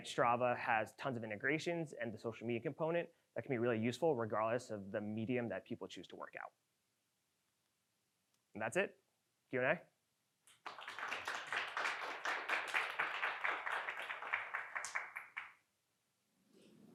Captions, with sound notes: Strava has tons of integrations and the social media component that can be really useful regardless of the medium that people choose to work out. And that's it, Q and A. (audience clapping)